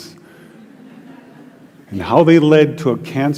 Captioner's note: Risos